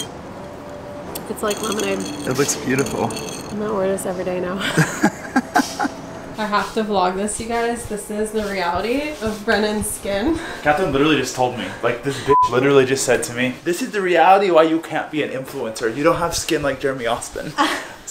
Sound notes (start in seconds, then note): 4.6 both laughing